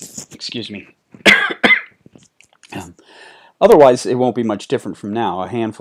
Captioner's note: coughing